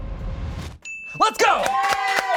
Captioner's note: dramatic music; bell dings; audience applauding